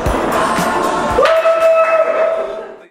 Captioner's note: cheers